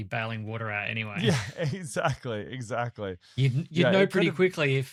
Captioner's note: laughs